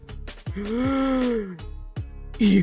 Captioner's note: gasp